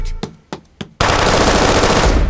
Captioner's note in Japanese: 銃声